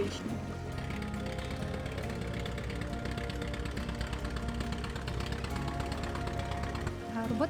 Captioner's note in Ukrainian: гуркіт автомобіля